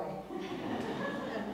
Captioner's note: laugh